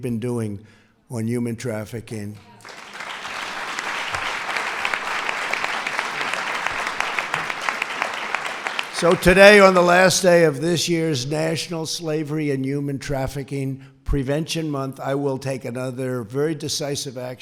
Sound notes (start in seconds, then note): 6.8 applause